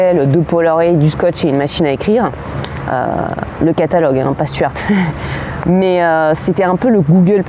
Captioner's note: haha